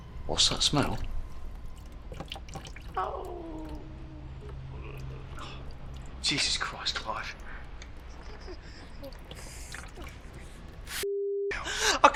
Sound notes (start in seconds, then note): 2.9 Clive moaning; 9.0 stool dripping